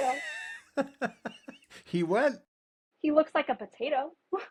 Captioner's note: laughing